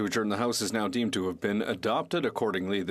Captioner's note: speaking French